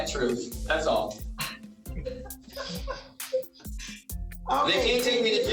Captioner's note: laughs